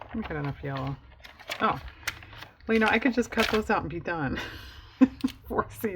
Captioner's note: laughs